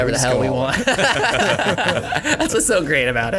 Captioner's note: all laugh